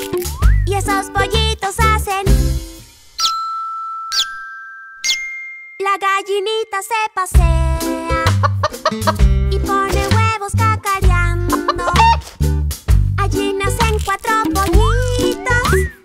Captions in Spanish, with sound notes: Y esos pollitos hacen (Sonido de pollito) La gallinita se pasea (Sonido de gallina) Y pone huevos cacareando (Sonido de gallina) Allí nacen cuatro pollitos